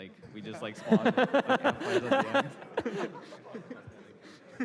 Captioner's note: laughter